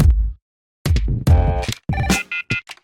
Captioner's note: upbeat music; phone buzzing; phone ringing